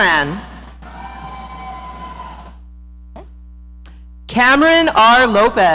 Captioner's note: audience cheering